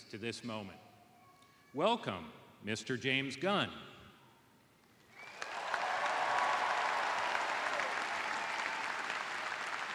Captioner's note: cheers and applause